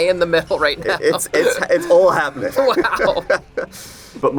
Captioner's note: laughter